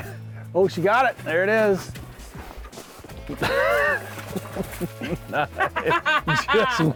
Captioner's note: laughs